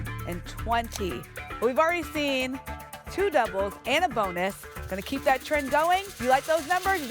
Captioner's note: none